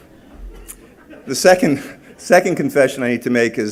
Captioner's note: laughter